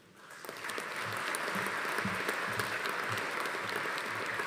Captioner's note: audience applauding